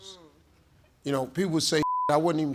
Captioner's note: beep